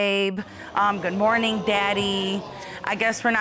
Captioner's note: audience exclaims